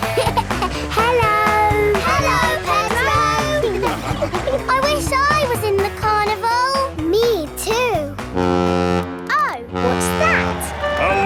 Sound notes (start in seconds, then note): 0.0 laughing; 9.7 horn bellowing